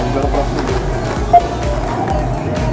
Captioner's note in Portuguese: beep